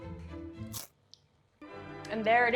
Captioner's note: mouth crunching